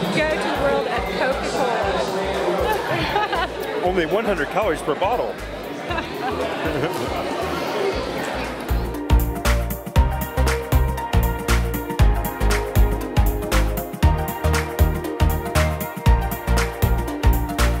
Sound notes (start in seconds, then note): 2.4 laughing; 5.6 laughing; 8.8 upbeat music